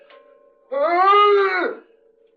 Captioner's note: James groaning